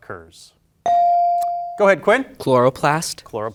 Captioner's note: bell ringing